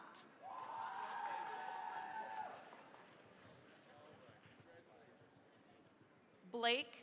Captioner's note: cheering, applause